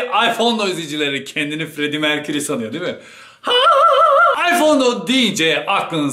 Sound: mocking himself; high pitch scream

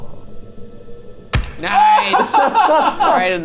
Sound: brick smashing; group laughs

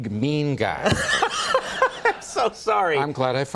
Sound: laughter

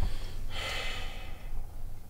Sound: exhales

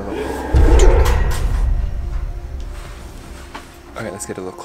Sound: roaring

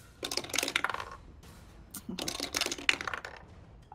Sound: dice clank

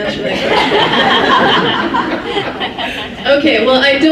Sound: laughs

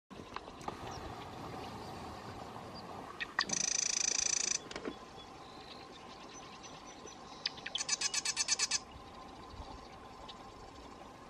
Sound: birds chirping

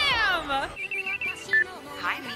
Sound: phone Ringing

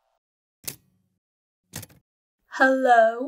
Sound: typewriter key clicks

